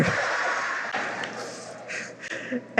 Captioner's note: laughter